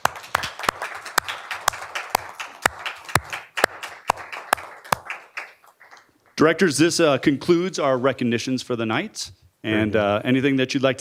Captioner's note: applause